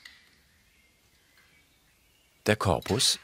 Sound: birds chirping

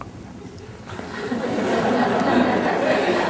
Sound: laughter

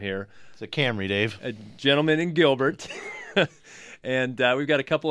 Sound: laughs

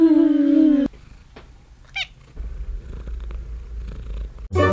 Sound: loud cat purring

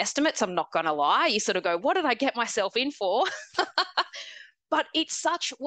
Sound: laughs

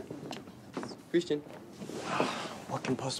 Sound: sighs

